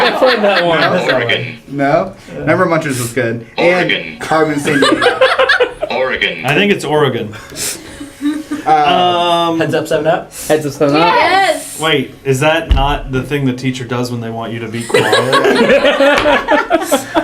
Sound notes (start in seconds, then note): 3.6 laugh